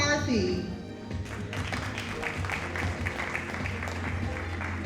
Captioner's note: audience applauding